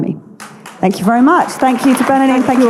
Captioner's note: audience clapping